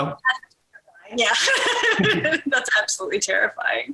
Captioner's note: laughs